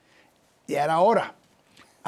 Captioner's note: speaking Spanish